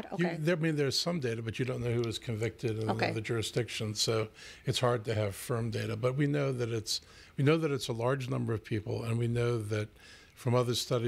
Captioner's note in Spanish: Hablando ingl\s